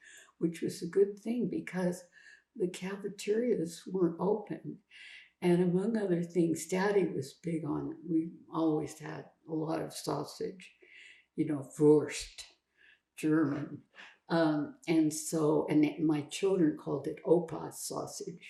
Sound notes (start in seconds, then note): 12.2 german